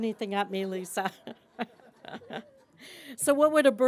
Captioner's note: laughter